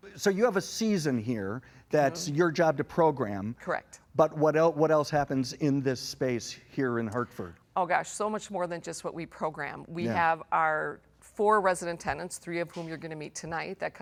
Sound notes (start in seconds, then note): none